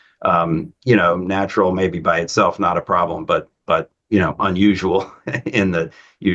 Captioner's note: laughs